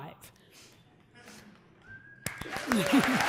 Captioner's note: applause